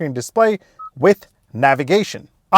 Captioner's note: beep sound